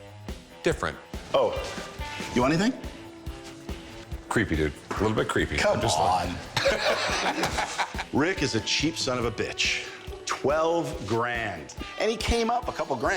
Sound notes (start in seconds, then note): 6.5 cackles